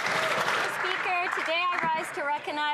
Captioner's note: some Applause